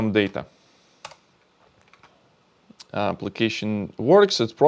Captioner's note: keyboard clicking